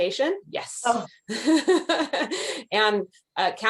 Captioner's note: chuckles